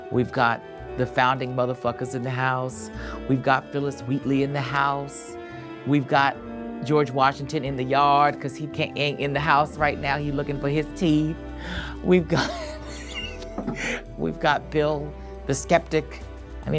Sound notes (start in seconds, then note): 12.4 laughs